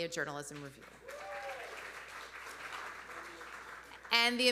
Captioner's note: audience applauding; audience cheering